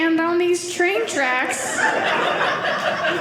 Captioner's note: audience laughing